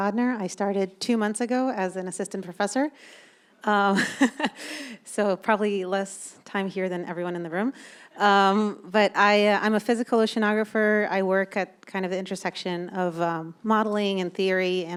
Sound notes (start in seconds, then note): 4.0 laughs